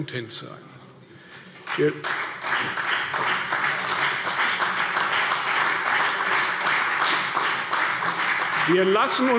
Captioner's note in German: Beifall CDU und BÜNDNIS 90/DIE GRÜNEN